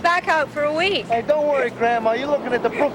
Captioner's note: laughing